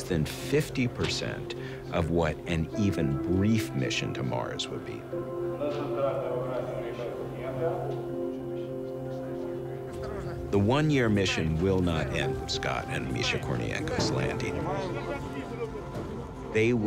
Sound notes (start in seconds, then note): 6.9 man speaking Russian